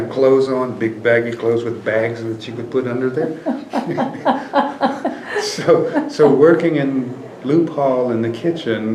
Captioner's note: laughter